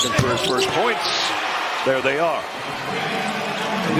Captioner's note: cheers and applause